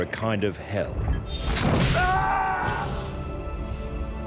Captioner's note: whip lashes; man screams